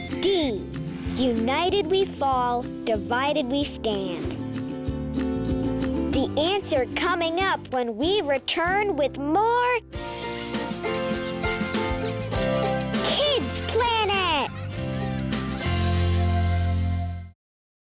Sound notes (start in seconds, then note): 10.8 toys squeaking; 14.8 children laughing